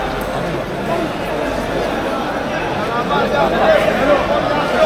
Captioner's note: crowd chattering